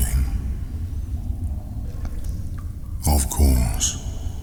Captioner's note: cave noises